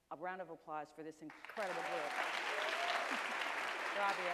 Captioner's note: applause, a few cheers